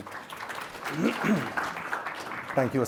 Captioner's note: applause